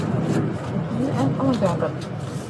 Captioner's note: speaking in foreign language